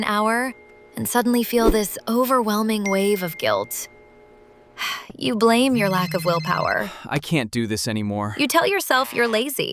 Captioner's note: sigh